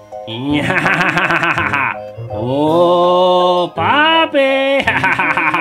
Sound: laughing

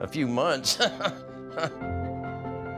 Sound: chuckles

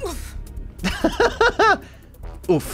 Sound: laughs

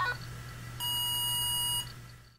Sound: alarm Sounds Again

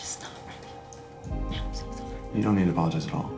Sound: whispers

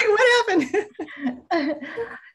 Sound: laughter

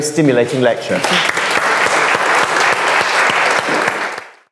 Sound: audience applaud

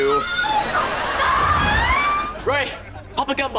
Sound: screaming

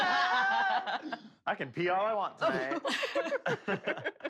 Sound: laughter; laughter

